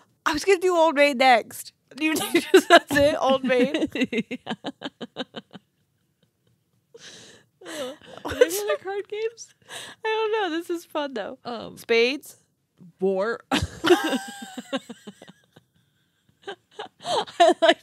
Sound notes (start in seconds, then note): 5.0 chuckling; 13.5 laughing